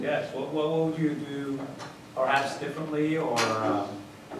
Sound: voiceover

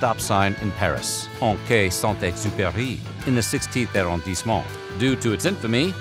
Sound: speaking french

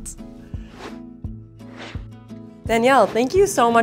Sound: air whooshing

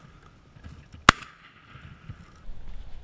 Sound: gun shot

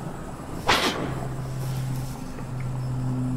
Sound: air whoosh

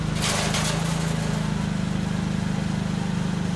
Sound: metal shaking

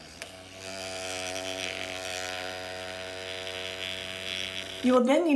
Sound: rover vibrates consistently

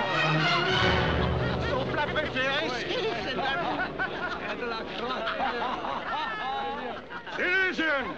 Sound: chattering; laughing

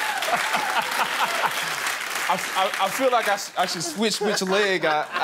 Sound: laughter; applause

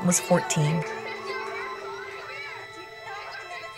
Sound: children laughing - and chatting

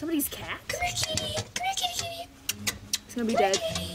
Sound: kissy noises

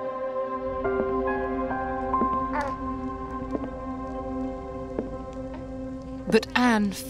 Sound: heels clack; baby coos

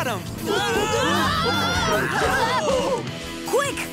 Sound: screaming

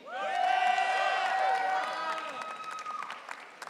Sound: audience cheering

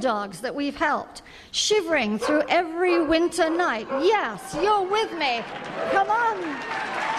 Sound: dog barking

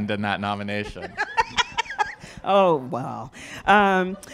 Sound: laughs

